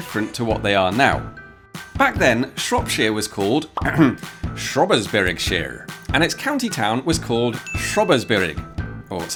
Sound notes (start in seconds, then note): 3.8 ahem